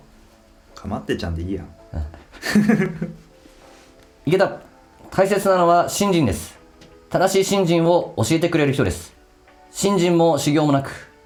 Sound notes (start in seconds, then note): 2.2 laughs